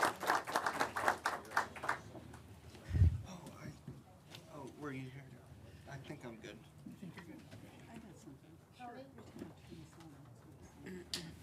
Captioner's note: applause